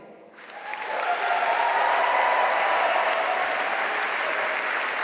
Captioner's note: audience cheering and applauding